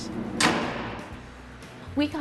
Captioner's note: door clangs shut